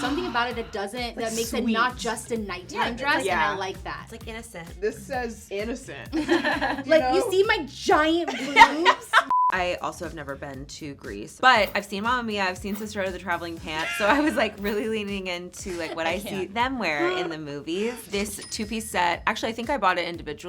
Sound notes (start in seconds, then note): 6.1 all laughing; 9.3 screen beeps